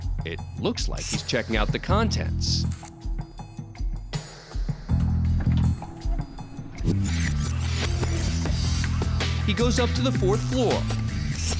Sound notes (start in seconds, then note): 2.8 camera clicks; 6.7 rewind whirring